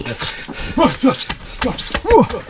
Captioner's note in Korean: 기합